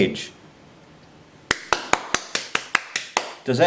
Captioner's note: applauds